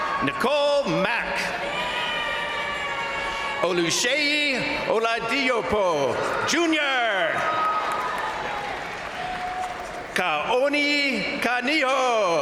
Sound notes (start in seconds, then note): 0.0 crowd cheering; 1.7 crowd cheering; 5.8 crowd cheering; 12.2 crowd applauding; 12.2 crowd cheering